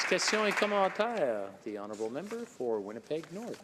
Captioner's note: applause